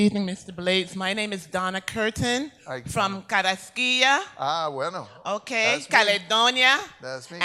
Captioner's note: speaks in Spanish